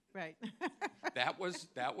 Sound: laughs

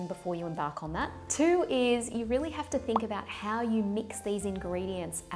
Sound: popping

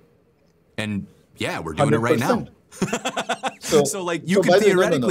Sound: laughter

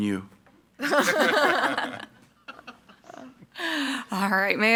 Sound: group laughing

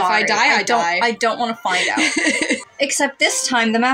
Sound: laugh

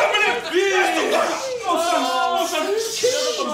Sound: shushing

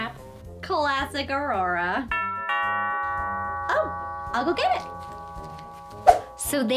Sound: doorbell

